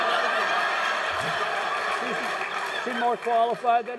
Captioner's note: laughing